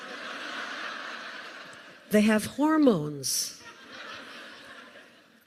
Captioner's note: laughter